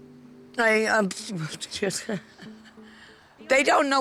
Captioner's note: laughing